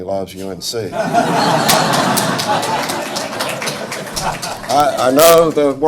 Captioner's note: audience laughing and applauding